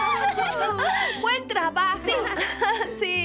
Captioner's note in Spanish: todas aclamando